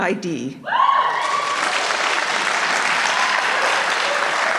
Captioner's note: applause